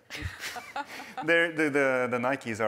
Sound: laughter

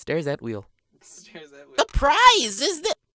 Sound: laughing

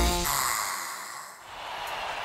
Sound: sighs

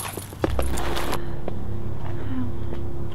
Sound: scaraping Shoe Sound

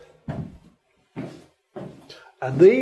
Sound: deep exhalation; footsteps

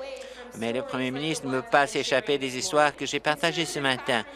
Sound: applause

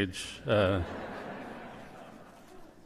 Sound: laughter

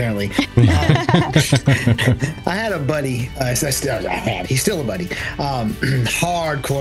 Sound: laugh

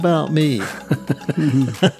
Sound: laughter

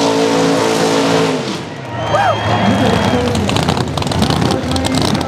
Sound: crowd cheering

